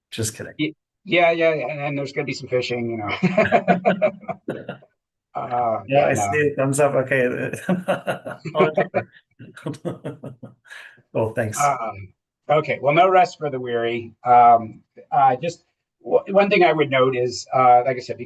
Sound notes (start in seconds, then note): 2.9 laughing; 5.7 overlapping chatter; 7.5 laughing